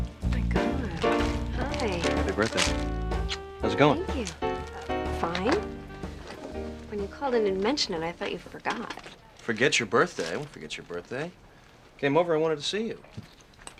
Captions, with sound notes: - Oh, my god. Hi. - Happy birthday. [SMOOCH] How's it going? - Thank you. Fine. When you called and didn't mention it, I thought you forgot. - Forget your birthday? I won't forget your birthday. Came over, I wanted to see you.